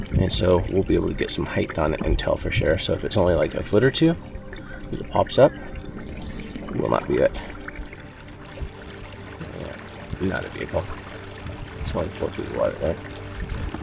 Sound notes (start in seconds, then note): 8.1 suspenseful music continues; 8.1 water lapping gently